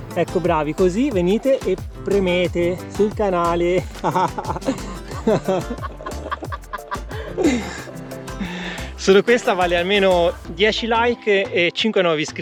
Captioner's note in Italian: Risate